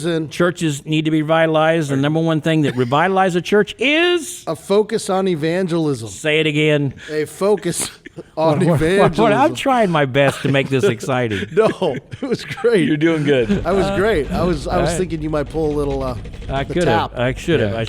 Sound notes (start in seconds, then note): 2.6 chuckling; 7.5 podcasters chuckling; 13.6 fingers drumming